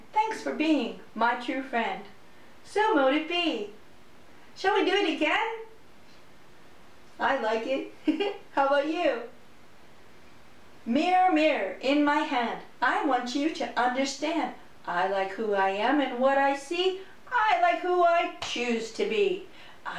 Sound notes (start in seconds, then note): 8.0 giggles